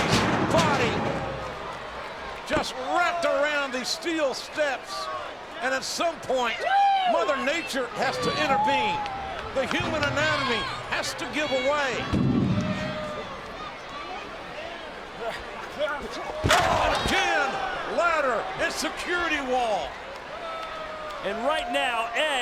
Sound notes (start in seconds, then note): 13.1 audience chattering; 16.4 body thuds